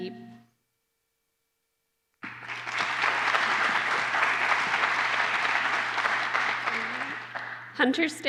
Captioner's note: applause